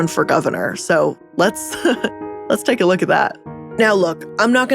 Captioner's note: laughing